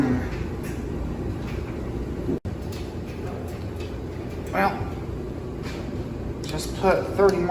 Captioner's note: dryer continues running